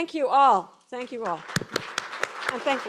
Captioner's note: applause